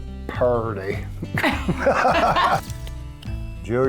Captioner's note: both laughing